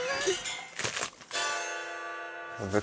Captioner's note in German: Knacken, Gong